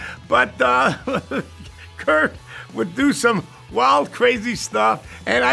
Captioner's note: laugh